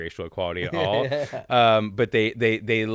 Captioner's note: giggling